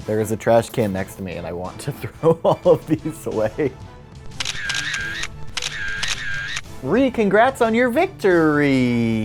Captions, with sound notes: There is a trashcan next to me and I want to throw all of these away. (camera snapping) Ree, congrats on your victor-Ree!